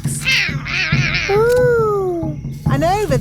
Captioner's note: roaring